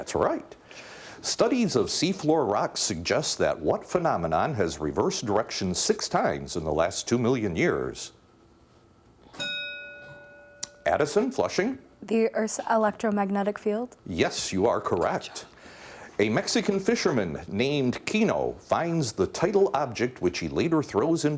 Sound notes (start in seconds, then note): 9.3 bell dinging